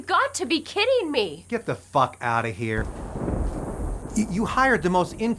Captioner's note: thunder rumbles